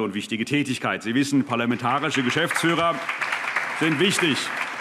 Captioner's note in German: Allgemeiner Beifall